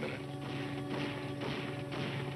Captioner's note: gunshots